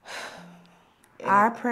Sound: Leanne sighs

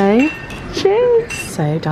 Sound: glasses clink

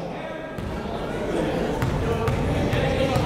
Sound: chatter

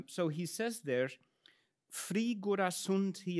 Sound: speaks in Latin

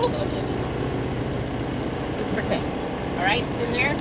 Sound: boat engine idling

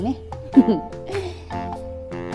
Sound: laughs

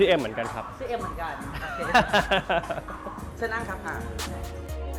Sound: laughs

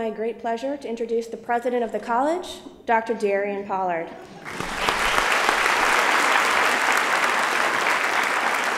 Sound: applause

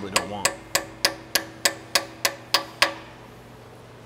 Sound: hammer banging

